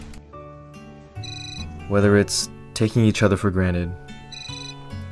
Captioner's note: cellphone continues to ring